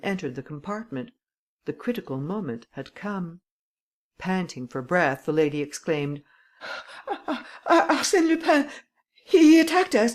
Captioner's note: laughter